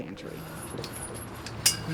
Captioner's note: metal clanging